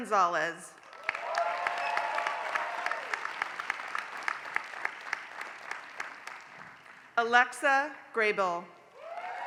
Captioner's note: applause; applause